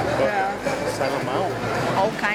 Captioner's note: in Portuguese